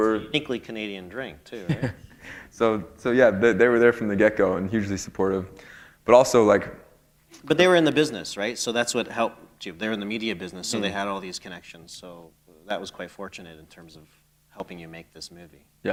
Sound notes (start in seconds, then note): 1.6 chuckle